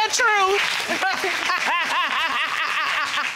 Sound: audience applauds; judge laughs

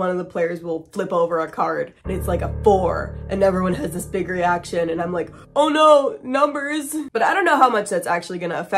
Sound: ominous sound

